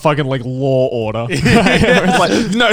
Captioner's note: all laughing